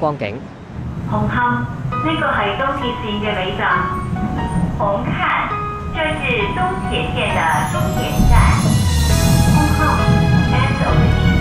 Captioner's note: train Announcement